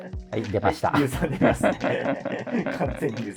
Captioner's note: laughing